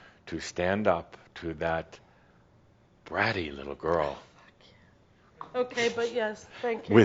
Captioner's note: whispers